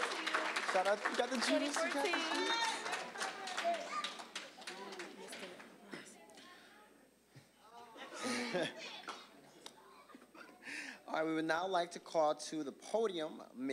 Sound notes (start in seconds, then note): 0.0 applause, cheering; 7.9 audience laughing